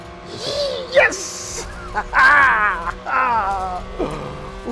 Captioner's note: laughs